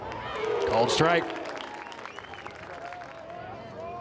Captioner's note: fans applaud